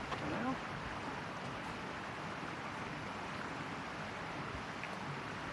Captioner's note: sounds of stream running